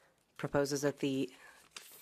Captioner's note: speaking French